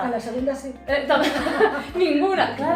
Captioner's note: laughs